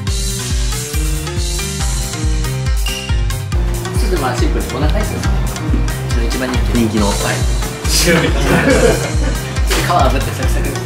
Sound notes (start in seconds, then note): 8.0 laughs; 8.1 laughter